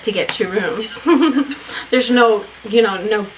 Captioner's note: laughs